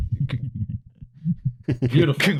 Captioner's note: muffled laughter